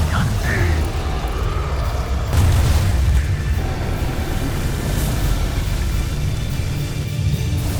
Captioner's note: evil energy whoosh & crackle; rousing music playing